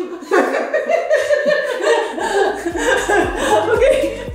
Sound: laughing

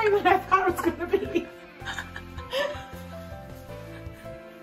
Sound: laughs

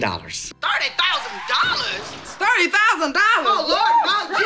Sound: screaming

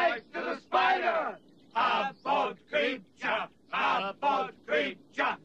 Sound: knights chanting

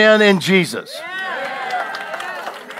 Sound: congregation cheering

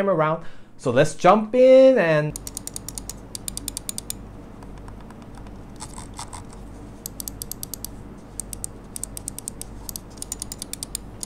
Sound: click sound test

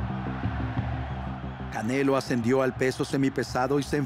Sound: aplausos y aclamaciones

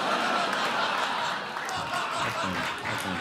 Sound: crowd laughs

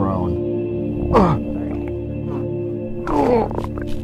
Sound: grunt; stomach gurgling

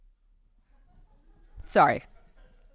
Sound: laughter

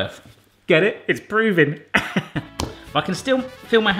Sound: laughs

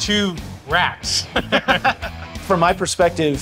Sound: all laughing

